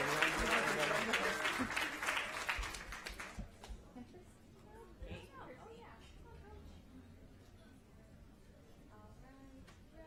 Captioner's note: applause